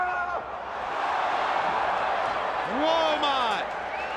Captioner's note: crowd cheering